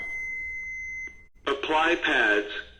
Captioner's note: defibrillator beeping